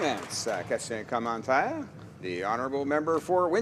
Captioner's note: applause